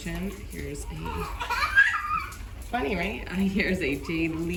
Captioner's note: baby laugh